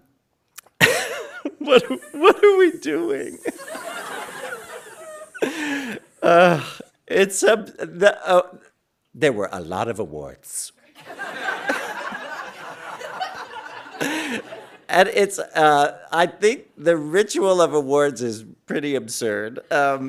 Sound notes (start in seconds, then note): 2.6 hissing sound; 10.9 audience laughing